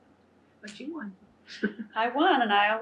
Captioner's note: laughs